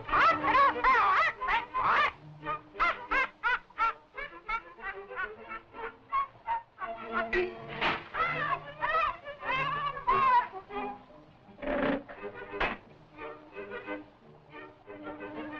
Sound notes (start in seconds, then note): 0.0 squawking; 2.6 laughing; 11.5 grunts